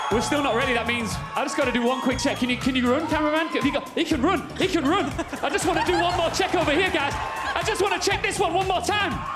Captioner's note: cheers and applause